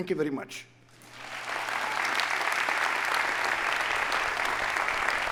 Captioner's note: audience applauding